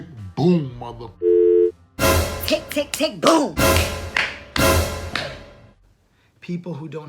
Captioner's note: dramatic sound effects